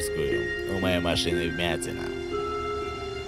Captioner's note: on phone